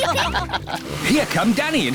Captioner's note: all giggle